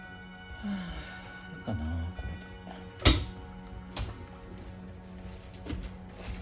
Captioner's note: tired